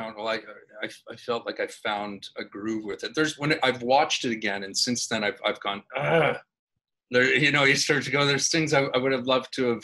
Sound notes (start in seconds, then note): 5.8 groans